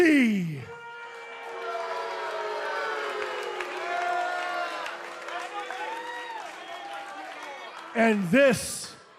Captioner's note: cheers and boos